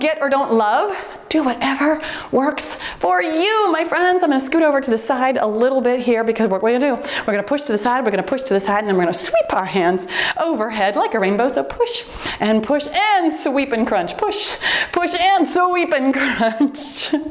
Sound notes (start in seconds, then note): 10.1 timer beeps